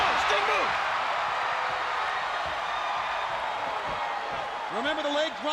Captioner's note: crowd cheering